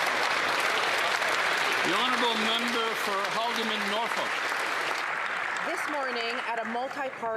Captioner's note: some Applause